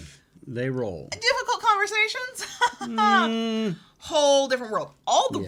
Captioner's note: chuckles